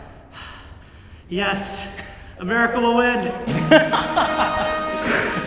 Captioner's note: laughs